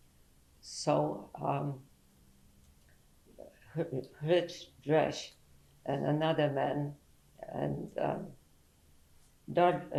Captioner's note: pauses for 3 seconds